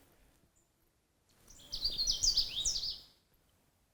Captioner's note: birds singing